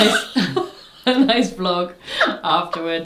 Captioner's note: both laugh